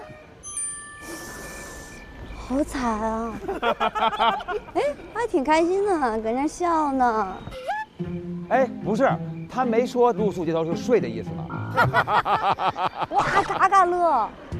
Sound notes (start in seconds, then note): 3.3 hahahaha; 11.7 hahahaha